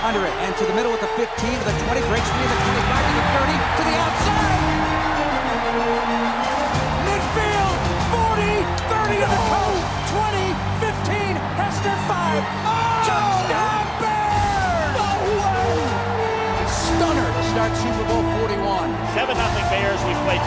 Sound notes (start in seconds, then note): 5.2 crowd cheers